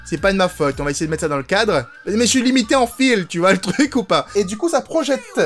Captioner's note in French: rire